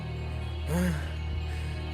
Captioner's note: heavy breathing after training